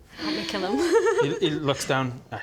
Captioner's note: bloodthirsty giggle